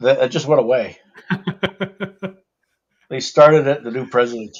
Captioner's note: laughs